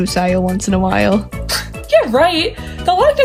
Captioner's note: scoffs